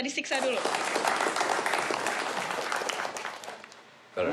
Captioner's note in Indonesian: tepuk tangan